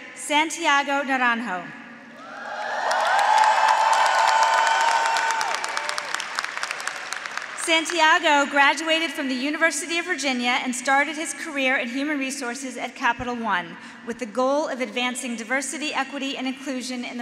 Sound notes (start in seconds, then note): 2.2 graduates cheering; 2.4 graduates applauding